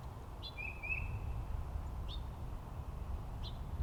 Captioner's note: birds chirping